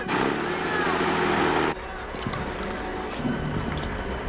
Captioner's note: jeep revving